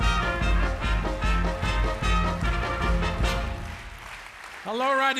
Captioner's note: audience claps along